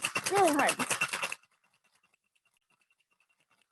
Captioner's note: bangs